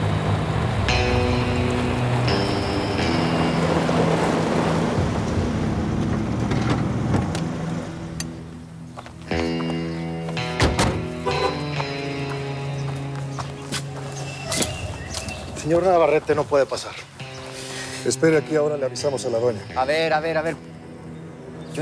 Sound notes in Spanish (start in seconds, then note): 3.0 Sonidos del vehículo; 11.2 Sonido de la alarma del vehículo